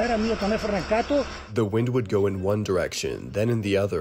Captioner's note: through translator